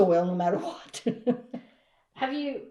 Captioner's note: laughs